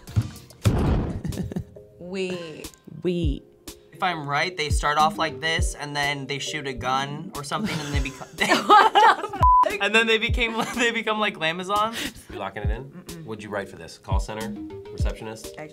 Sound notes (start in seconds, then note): 2.9 mockingly; 7.6 all laughing